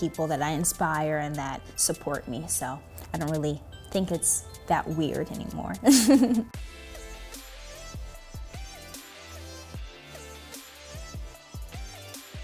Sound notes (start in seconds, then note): 5.8 laughs; 7.2 upbeat music